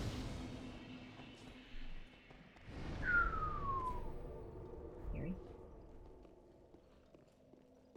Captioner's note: whistling